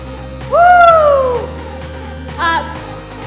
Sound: screams

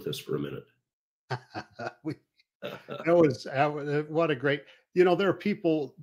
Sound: laughs

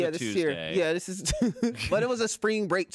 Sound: laughs

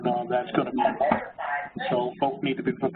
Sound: phone chatter interrupts

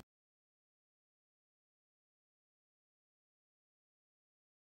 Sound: silence

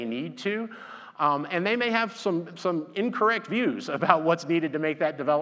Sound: laughs

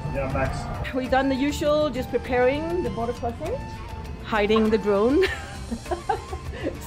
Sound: laughing

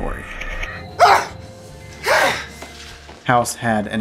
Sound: screams

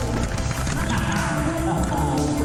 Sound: hahahaha

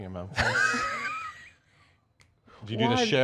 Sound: Erich laughs

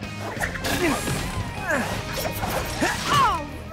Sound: grunting

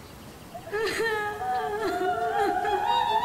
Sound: cries continue

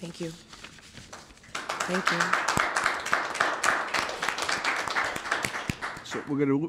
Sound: courtroom applause

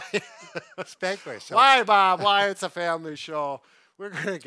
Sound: chuckles

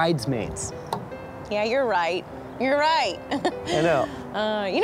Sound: laughs

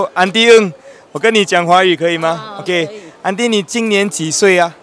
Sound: in Mandarin

